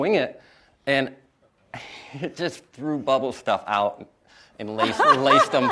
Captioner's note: laughs